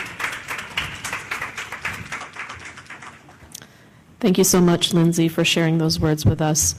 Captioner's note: applause